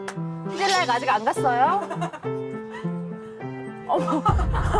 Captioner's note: chilly sound effect